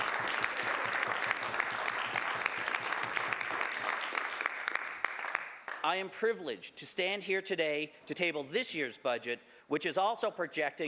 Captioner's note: some Applause